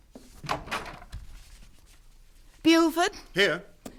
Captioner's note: footsteps depart, door opens